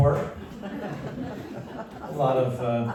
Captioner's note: laughter